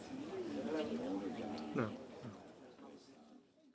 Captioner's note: people talking in background